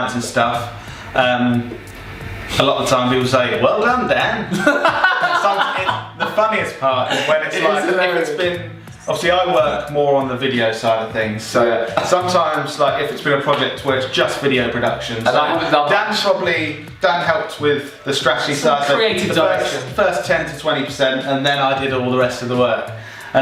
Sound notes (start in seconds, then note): 4.4 loud laughing